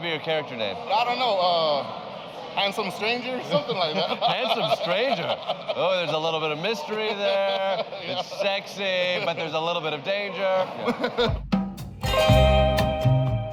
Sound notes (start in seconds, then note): 3.4 laughing; 11.8 chill music